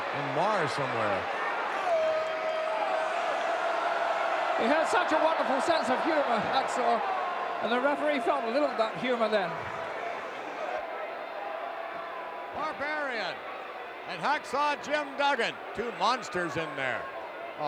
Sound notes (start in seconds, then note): 3.3 audience cheering